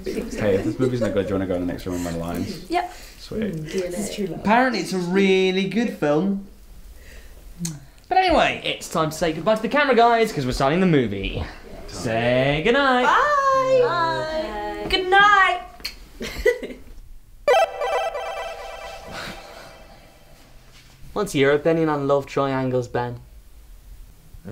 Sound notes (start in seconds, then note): 13.8 murmuring; 16.2 giggling; 17.4 electronic tone; 19.1 Ben sighing